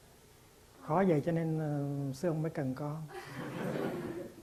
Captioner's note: audience LOL